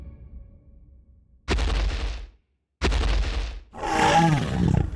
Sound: pounding; roar

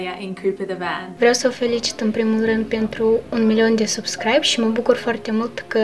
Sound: in foreign language

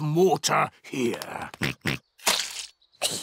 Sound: oinks; giggles

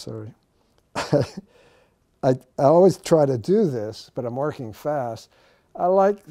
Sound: laughs

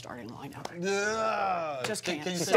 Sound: groaning

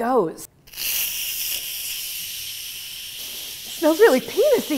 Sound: steam releases

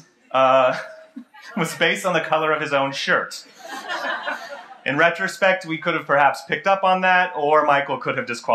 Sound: laughter

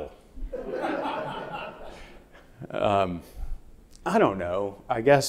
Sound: audience laughing

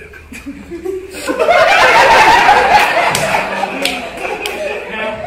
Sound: laughter

